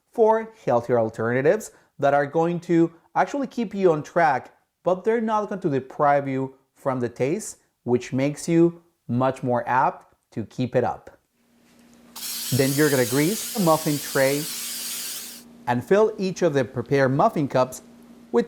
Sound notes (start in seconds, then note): 12.1 oil spraying